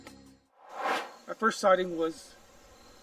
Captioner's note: air swooshes